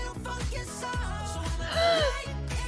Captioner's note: gasps